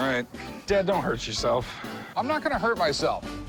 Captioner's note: none